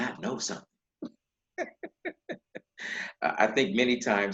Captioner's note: laughing